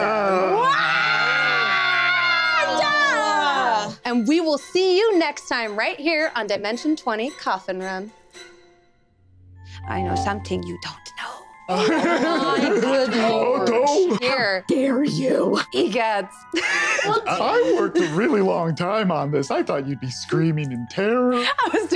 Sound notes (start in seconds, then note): 0.6 group exclamations of protest; 11.7 group exclaiming